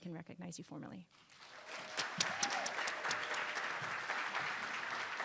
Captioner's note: attendees applauding